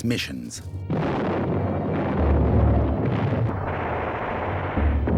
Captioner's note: explosions; gunfire